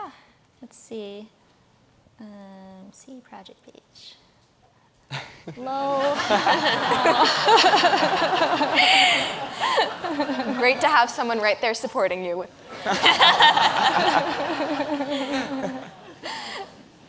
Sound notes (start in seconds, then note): 5.8 audience laughs; 12.7 audience laughs